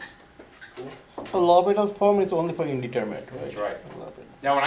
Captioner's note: voiceover